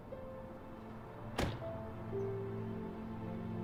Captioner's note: car door bangs shut